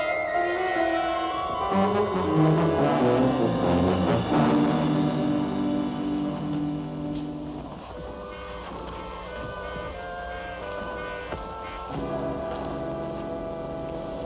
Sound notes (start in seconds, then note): 8.6 parachute rustling